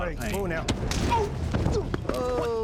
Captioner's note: punch; scottish accent